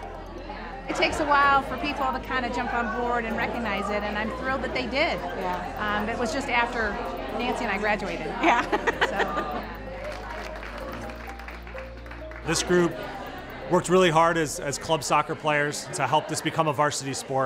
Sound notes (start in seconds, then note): 8.4 laughs; 8.9 crowd applauds